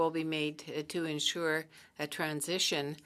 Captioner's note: speaking French